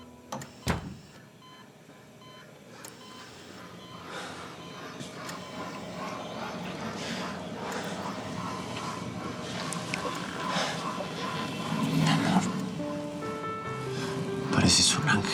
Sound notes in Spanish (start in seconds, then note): 4.0 bip del monitor